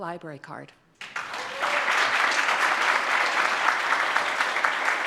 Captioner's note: audience claps